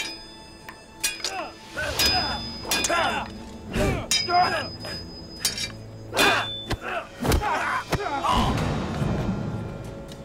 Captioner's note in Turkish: Dövüş sesleri